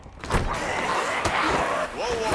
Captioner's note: zombies growling